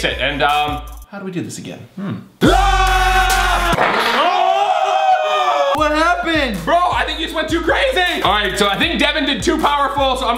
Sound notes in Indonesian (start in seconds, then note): 2.4 teriakan